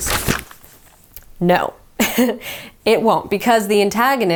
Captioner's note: chuckles